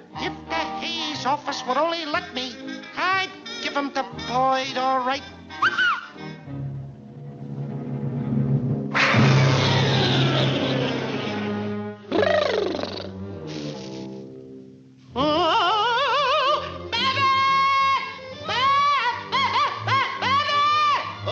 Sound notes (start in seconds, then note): 5.6 whistles